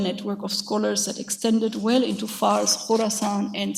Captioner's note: speaks a foreign language